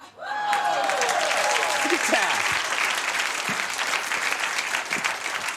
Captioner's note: audience cheers and applauds